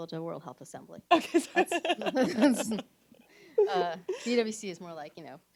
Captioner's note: chuckles